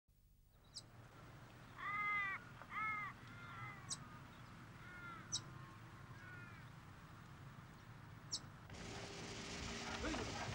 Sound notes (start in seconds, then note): 1.3 brids Chirp; 8.7 clippers humm